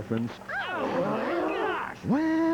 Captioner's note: gasping